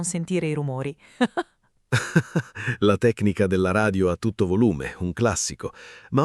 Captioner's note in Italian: Haha